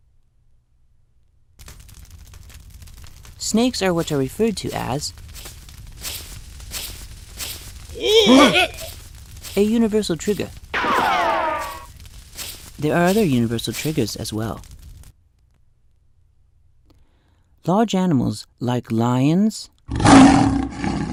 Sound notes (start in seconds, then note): 5.7 snake crawling; 10.7 ricochet sound; 19.9 lion roars